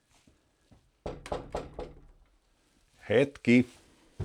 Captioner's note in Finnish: koputtaa ovea